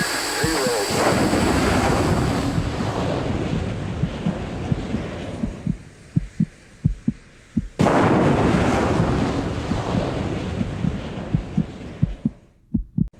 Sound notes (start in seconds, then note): 0.2 engines booming; 1.3 heartbeat thudding